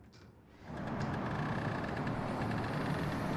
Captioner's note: distant traffic